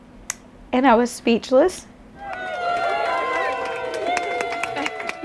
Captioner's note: staff cheering